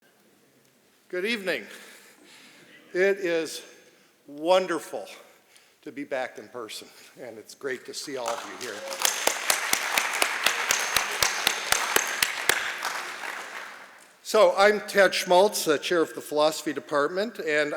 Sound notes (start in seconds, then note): 8.0 applause